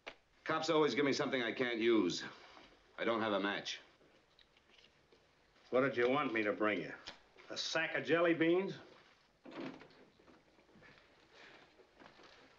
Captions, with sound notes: Cops always give me something I can't use. I don't have a match. What did you want me to bring you- a sack of jelly beans? [ Door Opens ]